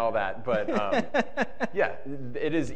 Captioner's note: panelist chuckling